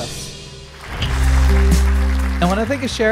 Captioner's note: cymbal crashing; crowd applauding